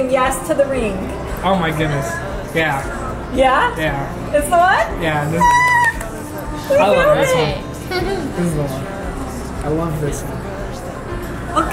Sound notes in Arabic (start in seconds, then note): 5.4 أمي تهتف وتصفق